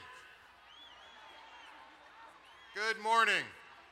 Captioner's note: crowd cheers